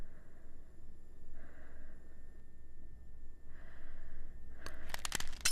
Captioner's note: deep breathing; rustling; clinking